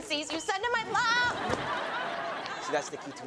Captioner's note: audience laughs